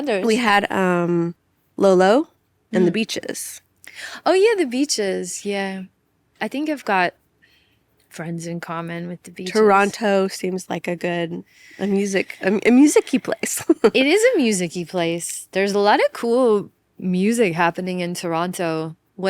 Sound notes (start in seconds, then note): 11.7 laughs